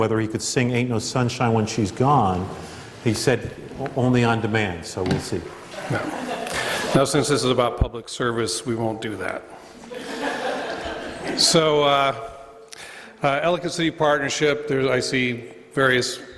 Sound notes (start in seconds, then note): 9.8 laughter